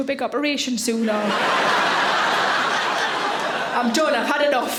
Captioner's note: audience laughing